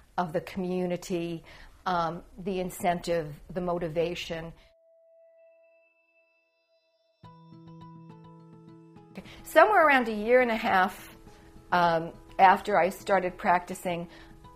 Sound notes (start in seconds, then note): 4.7 chiming; 7.2 soft music